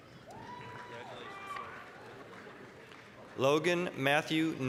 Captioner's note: applause, cheering